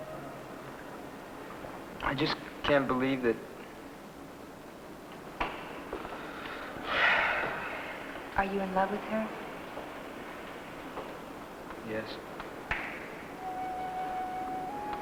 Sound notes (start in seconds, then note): 6.1 Johnny sighs deeply; 12.5 gentle music